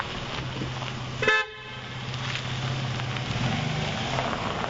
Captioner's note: horn honking